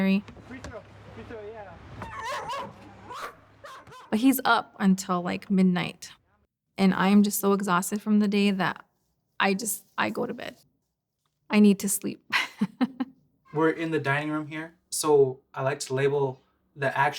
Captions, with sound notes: Free-throw. Free-throw, yeah. (dog barking) But he's up until, | like, midnight and I am just so exhausted from the day that I just-- I go to bed. I need to sleep. We're in the dining room here, so I like to label the actions